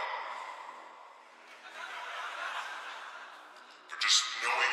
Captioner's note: "audience" laughs